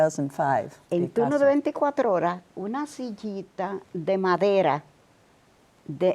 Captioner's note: speaking Spanish